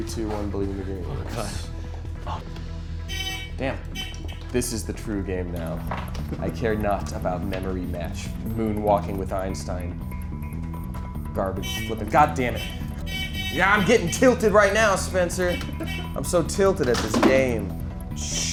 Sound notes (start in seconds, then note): 3.0 hooter buzzing; 10.1 intense music; 13.2 hooter buzzing